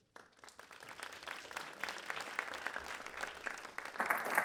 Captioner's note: applause